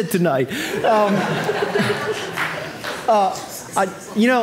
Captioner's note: audience laughing